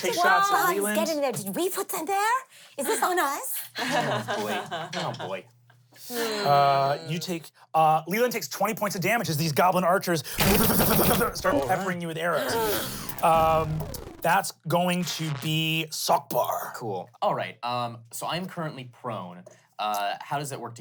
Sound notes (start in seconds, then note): 3.8 everyone laughs